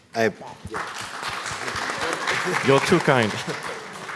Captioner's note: all applaud